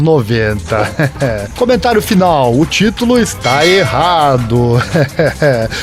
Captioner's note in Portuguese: risos; Risos